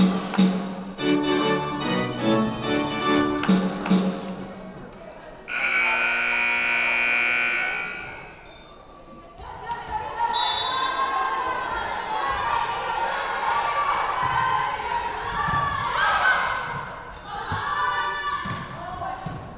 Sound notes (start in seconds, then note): 5.5 buzzer buzzing; 10.3 whistle blowing